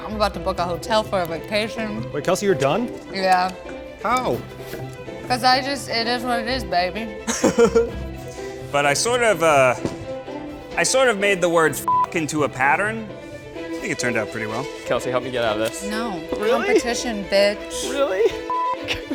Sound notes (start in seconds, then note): 11.8 beep; 18.5 beep